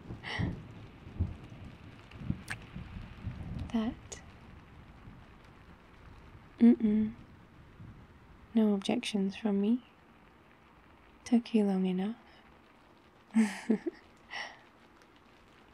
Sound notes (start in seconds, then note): 0.5 laughs; 2.4 kiss; 13.4 laughs